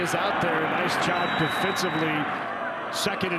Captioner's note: referee blows whistle